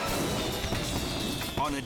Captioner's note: fireworks popping